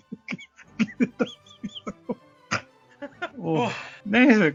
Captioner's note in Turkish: kahkaha